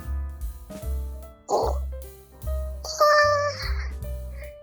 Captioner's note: grunts